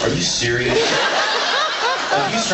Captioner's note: laughs